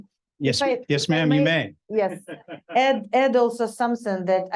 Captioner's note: audience chuckling